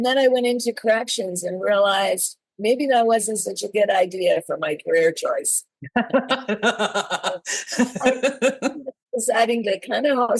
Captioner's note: laughs